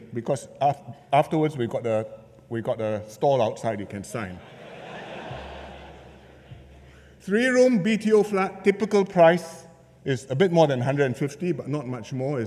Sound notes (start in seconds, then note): 4.4 laughter